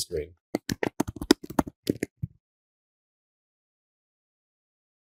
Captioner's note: keyboard typing